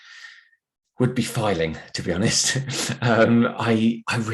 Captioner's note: chuckles